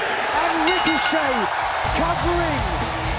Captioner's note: bell ringing